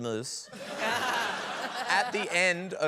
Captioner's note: laughter